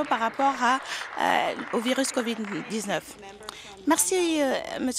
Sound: applause

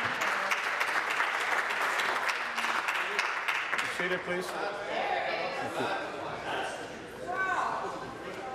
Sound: applause

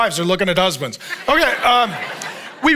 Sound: congregation chuckles

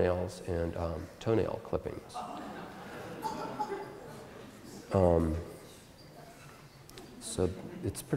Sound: audience Laughter

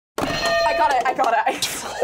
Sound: bell rings

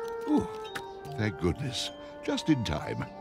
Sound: sigh, yawn

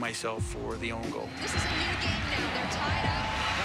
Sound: tv announcer

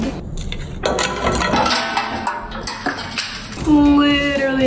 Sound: sugar shattering in slow motion

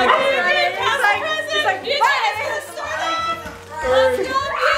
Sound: family cross chattering

